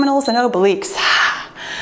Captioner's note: timer beeps